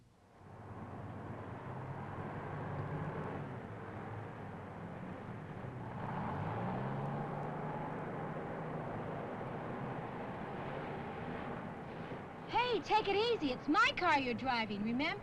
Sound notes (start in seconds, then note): 6.2 engine revving